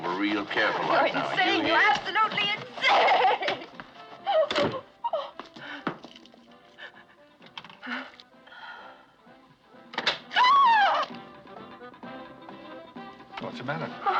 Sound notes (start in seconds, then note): 5.0 crying; 10.3 screams; 11.1 door Opens